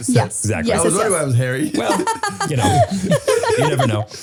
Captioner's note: laughing